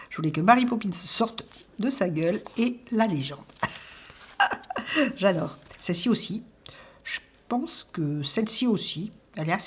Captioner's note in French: rires